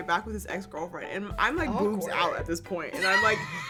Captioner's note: girls laugh